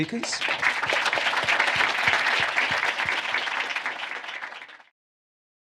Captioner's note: applause